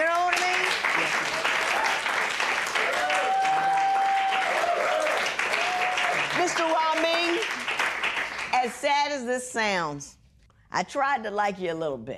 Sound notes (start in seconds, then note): 5.9 audience cheering